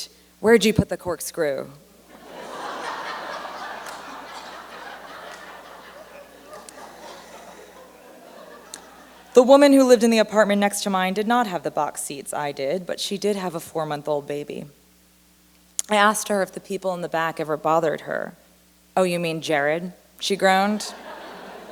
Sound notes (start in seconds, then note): 5.2 laughter; 20.8 laughter